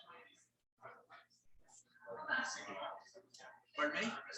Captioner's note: people chattering indistinctly